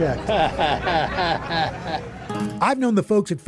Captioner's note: chuckles